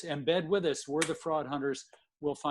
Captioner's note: clapping